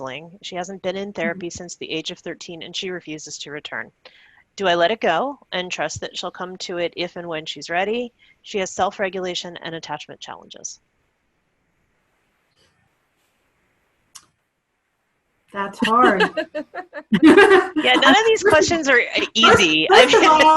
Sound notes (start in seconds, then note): 15.8 laughing